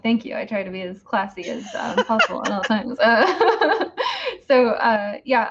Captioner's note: laughing